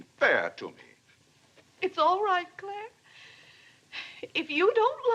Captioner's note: sobs